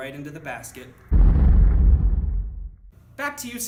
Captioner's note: slow-motion thud echoes